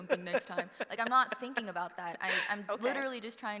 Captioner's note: laughs